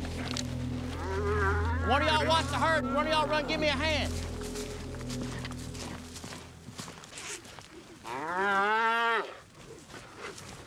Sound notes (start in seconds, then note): 0.8 mooing; 4.8 hoof beats; 8.0 mooing